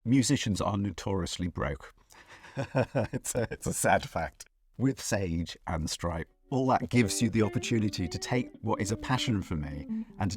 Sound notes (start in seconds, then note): 2.3 chuckles